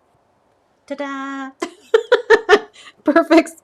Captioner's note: laughs